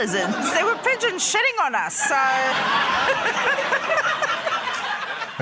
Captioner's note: laughter